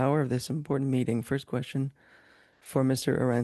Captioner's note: speaking French